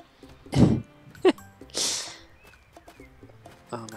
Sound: laughs

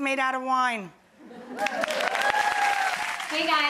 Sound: audience applauding

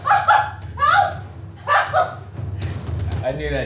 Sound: screaming

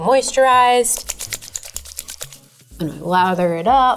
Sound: hands rubbing

